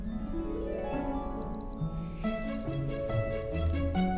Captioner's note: upbeat orchestral music; alarm sounds